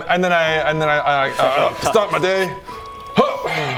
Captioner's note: brrr; hrgh